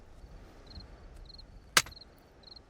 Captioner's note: gun clinks